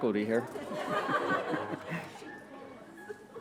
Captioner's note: laughter